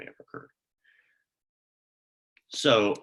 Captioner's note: silence